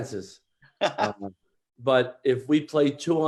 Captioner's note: laughs